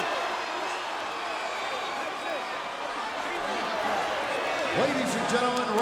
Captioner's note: crowd chattering